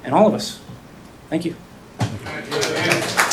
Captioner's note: applause